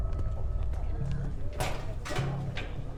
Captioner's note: chattering